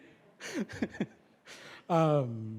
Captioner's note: laughter